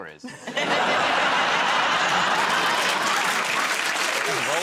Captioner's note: laughter